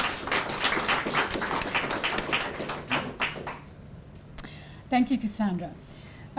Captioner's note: applause